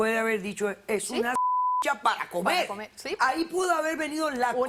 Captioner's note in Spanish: Bip